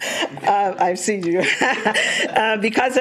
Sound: laughing

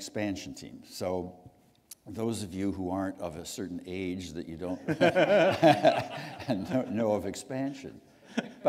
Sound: chuckle

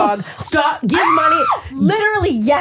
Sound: screams

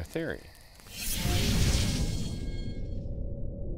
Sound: whooshing

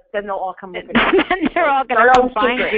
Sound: voiceover

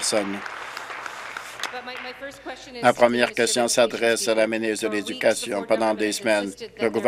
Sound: applause

